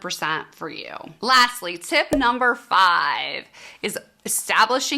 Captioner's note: cork popping